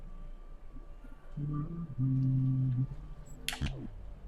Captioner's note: humming